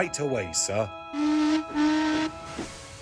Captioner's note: adam whistles